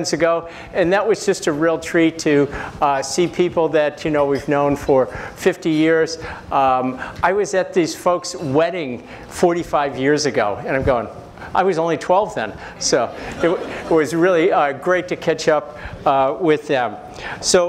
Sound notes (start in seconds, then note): 13.1 laugh